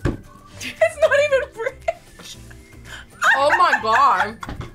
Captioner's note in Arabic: يضحك